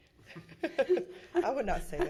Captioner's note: laughing